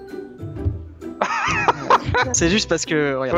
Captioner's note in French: rires